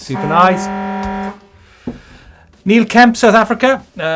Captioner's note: klaxon sound